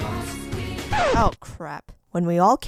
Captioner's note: record scratch